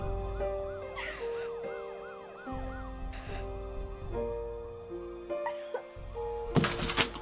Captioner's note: sirens wailing; solemn music; Raven gasping